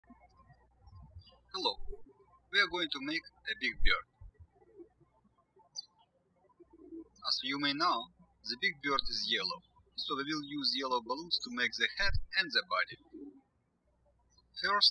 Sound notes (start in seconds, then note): 5.2 birds chirping